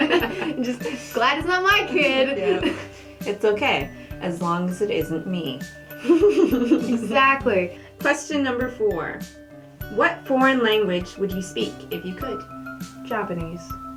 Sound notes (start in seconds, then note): 6.0 laughter